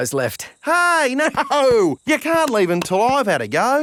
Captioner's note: laughing